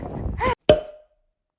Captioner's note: tong tong tong tong